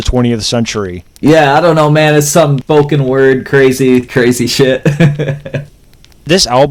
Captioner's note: laughs